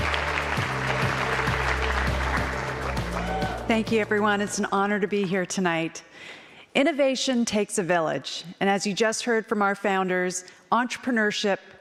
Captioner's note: applause